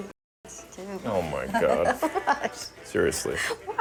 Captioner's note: laughing